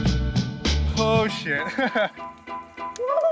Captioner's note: laughing